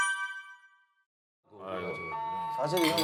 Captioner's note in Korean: 딩동